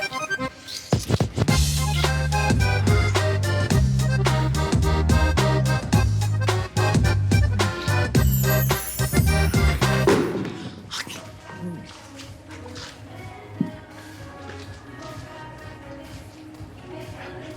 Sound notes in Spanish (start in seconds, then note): 9.0 Estruendo